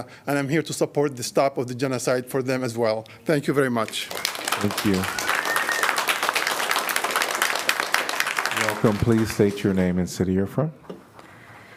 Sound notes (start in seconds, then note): 3.8 applause